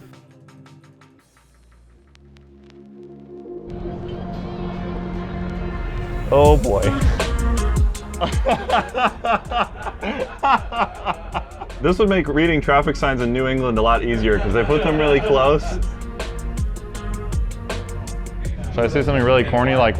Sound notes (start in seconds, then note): 0.0 soft upbeat music; 2.7 bright music; 7.2 soft upbeat music; 8.0 group laughing; 16.0 soft upbeat music